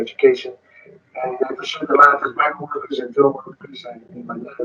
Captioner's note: speaking distorted